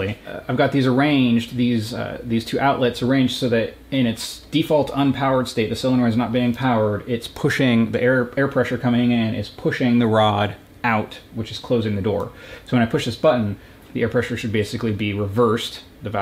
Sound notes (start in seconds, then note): none